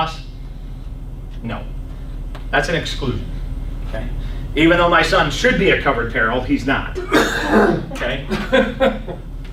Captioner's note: coughs